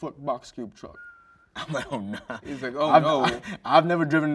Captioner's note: whistles; laughing